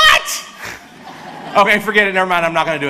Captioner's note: audience laughs